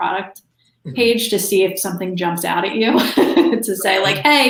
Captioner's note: laughs